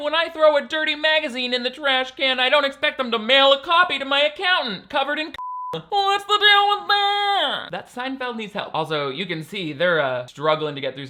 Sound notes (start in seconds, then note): 5.4 beep